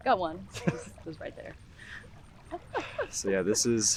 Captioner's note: chuckles